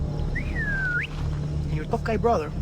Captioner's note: Vaas whistles